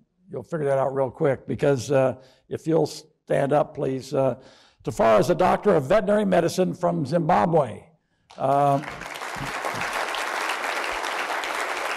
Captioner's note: applause